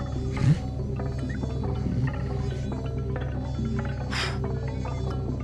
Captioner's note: Buddy grunts